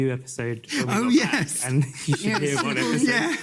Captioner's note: laughs